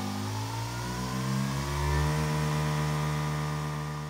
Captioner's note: machines whirs